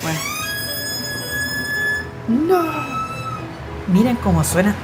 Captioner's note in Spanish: Puerta rechinando